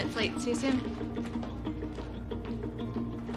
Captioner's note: door closes